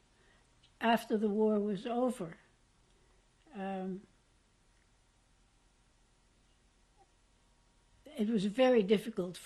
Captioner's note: pauses for 6 seconds